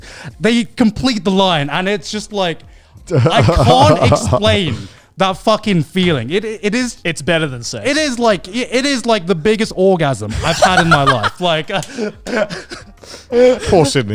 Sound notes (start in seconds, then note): 3.1 laughing; 10.3 laughing